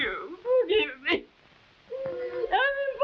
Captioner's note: sobbing